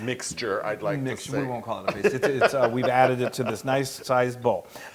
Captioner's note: laugh